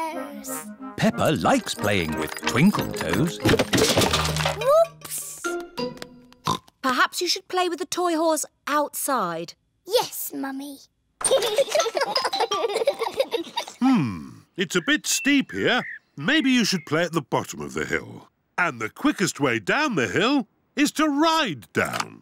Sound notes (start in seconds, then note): 6.1 oinks; 11.2 both giggling